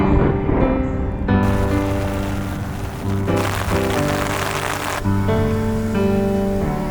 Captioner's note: rain pattering